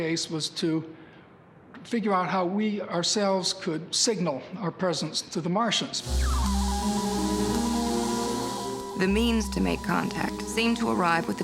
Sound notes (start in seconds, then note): 6.0 static hissing; 6.0 electronic warbling